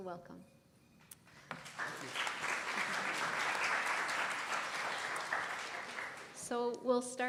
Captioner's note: applause